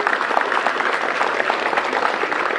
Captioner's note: applause